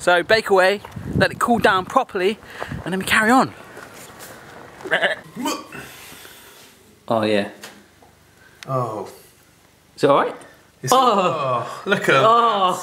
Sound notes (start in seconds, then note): 4.7 bleating; 4.9 grunting